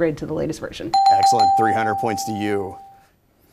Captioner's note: dings